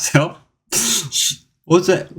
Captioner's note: sigh, shh